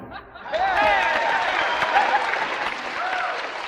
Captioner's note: cheers and applause